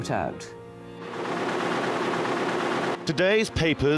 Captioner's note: machinery revving